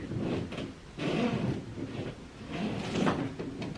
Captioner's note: bed squeaking